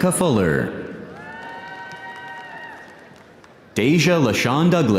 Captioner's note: audience cheering; audience applauding